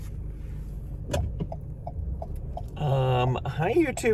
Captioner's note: turn signal clicking